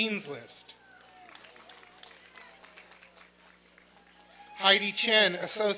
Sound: applause and cheering

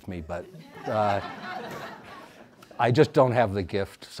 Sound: audience laughs

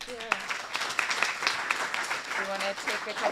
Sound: applause

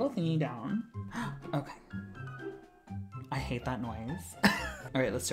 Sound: gasp; sewing machine rumble; laughs

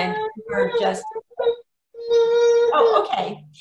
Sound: baby cries

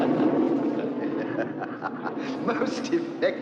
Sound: ming laughing evilly; klytus laughing evilly; laughing

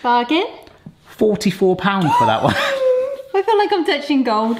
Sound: gasps

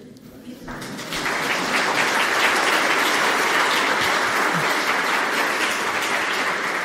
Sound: audience clapping

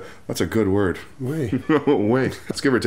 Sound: laughter

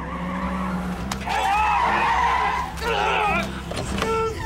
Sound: tires squealing; crying out

